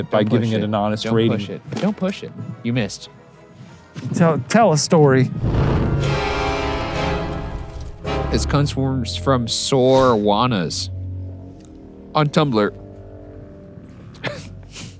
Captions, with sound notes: by giving it an honest rating. - Don't push it. Don't push it. You missed. - Tell a story. (smoke whooshing) (intense music) - This comes from @sorjuanas on Tumblr.